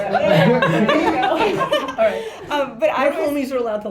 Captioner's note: laughter